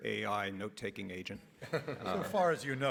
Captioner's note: everybody laughs